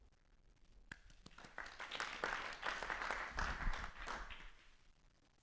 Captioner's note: applause